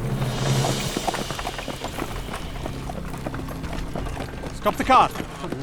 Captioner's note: horses galloping